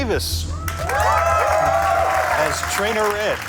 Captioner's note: crowd cheering